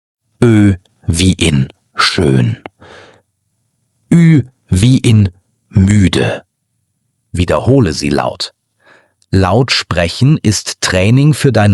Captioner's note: tired